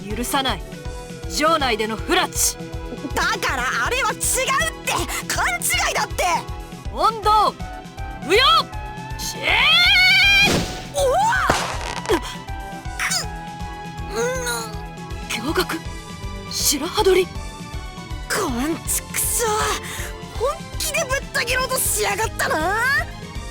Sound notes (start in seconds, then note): 9.3 slashing war cry; 13.6 struggling grunts